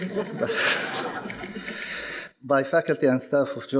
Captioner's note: people laughing